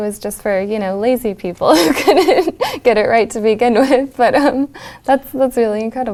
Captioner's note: laugh